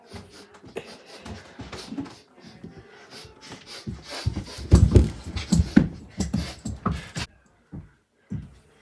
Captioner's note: aggressive sniffing